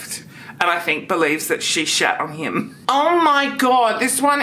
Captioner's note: giggles